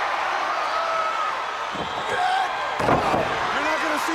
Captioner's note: crowd cheering